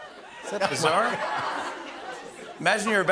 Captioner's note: laughter